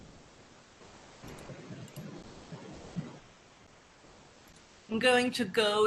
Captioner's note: computer mouse clicks